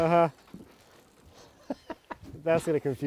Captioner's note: laughing